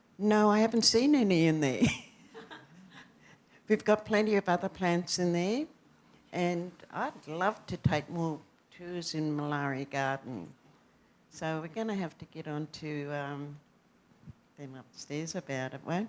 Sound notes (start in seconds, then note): 1.8 laughter